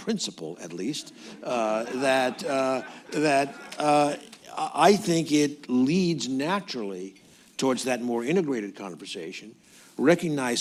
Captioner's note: laughter